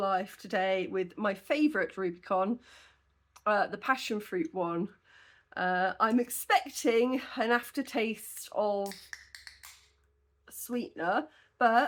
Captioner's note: can opening